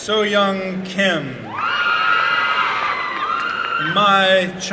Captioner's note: applause and cheering